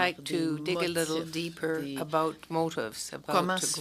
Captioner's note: speaking French